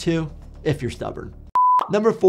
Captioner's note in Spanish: pitido gráfico